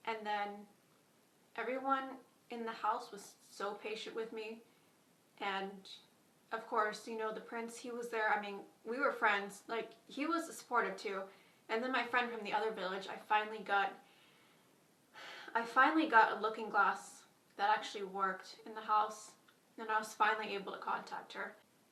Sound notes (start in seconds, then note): 15.2 sighs